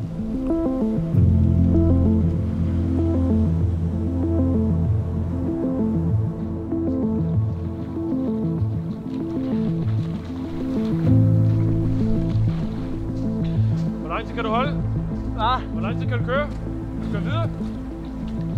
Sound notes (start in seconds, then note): 9.1 water splashing gently